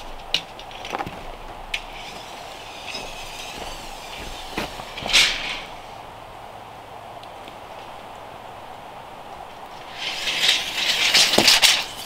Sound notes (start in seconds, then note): 1.8 tape measure zipping